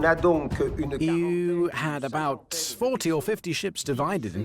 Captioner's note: voiceover